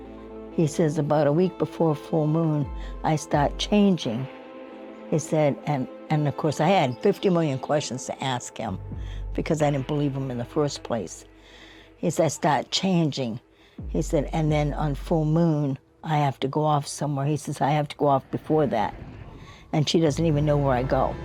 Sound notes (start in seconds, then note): none